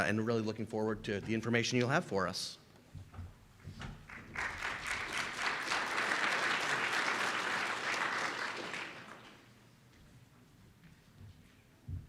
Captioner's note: round of applause from audience